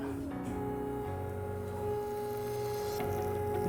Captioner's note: noise of machine